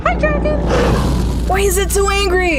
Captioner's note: dragon roars